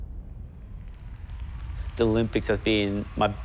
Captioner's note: applause